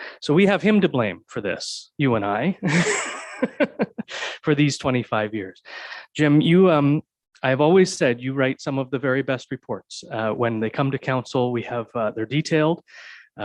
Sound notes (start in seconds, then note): 2.6 presenter chuckles